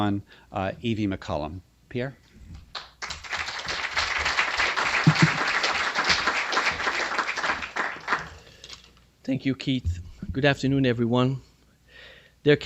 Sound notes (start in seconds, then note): 2.7 applause